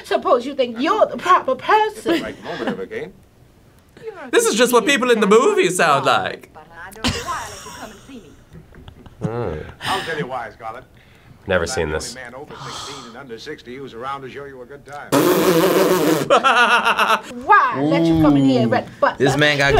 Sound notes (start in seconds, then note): 15.1 blowing raspberry; 16.3 laughing